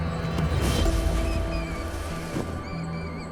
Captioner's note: mouse squeals